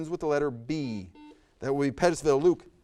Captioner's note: buzzer buzzes